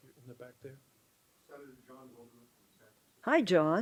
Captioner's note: reporter speaks off camera